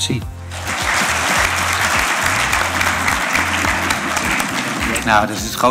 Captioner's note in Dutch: applaus